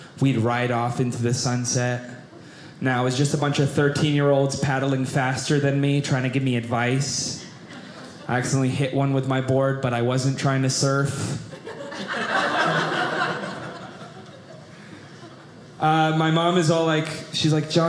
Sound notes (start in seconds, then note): 11.5 audience laughing